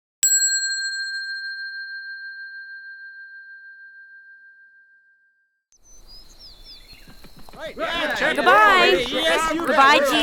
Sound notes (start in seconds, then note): 0.2 bell dings; 7.5 disciples chattering